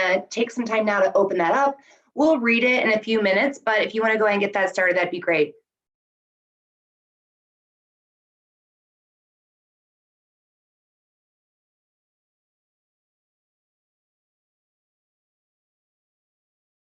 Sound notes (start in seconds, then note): 6.2 silence